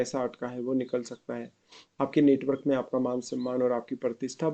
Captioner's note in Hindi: नाक से की जाने वाली आवाज़